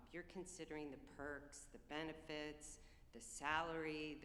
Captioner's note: none